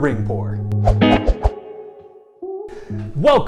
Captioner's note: swoosh sound effects, with background music